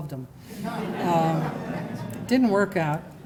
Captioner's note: laughter